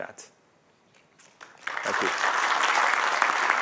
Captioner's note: applause